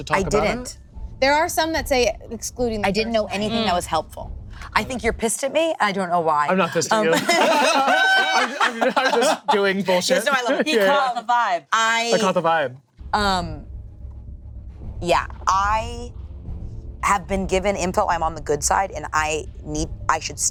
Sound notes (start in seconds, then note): 6.6 group laughing; 13.0 dramatic music